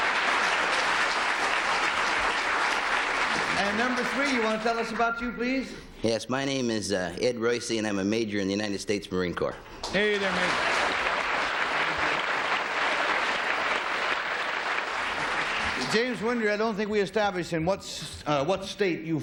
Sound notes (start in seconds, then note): 0.0 applause; 11.5 applause